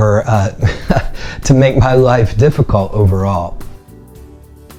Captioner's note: laughing